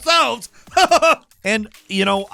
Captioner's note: laughing